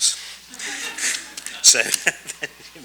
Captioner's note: audience laughs